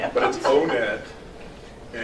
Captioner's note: laughing